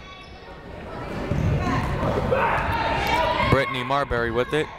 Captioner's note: people shouting in the crowd